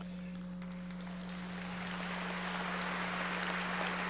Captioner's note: audience applauding